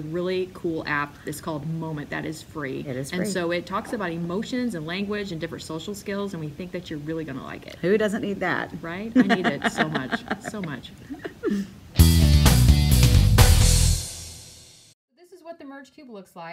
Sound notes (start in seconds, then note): 11.7 laughter; 12.0 fast music